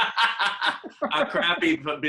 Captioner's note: laughing